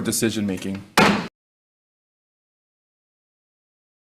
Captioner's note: gavel bangs